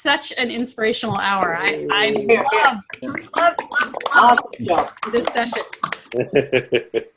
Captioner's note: clapping